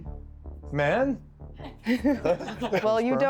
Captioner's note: laughing